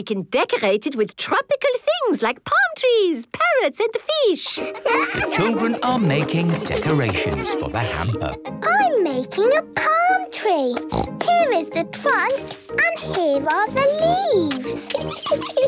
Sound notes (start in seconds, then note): 10.8 snorts